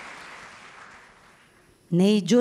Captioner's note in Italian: Applauso